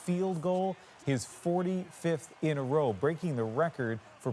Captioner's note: cheers and Applause